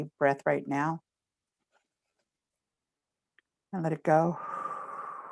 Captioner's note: inhales; exhales